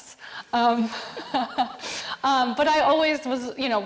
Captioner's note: all laughing